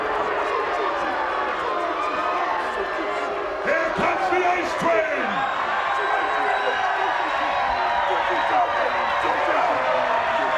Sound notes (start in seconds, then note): 0.2 audience jeers; 5.8 audience cheers